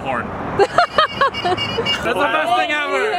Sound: laughs

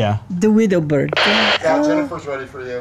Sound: walkie-talkie crackles

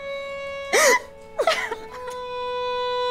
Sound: girls sobbing

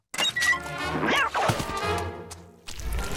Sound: meowing

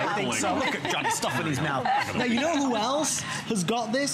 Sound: laughter

